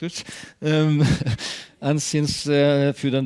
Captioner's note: chuckles